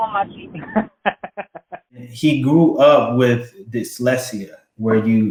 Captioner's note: laugh